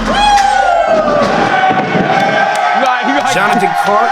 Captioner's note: dunkers cheering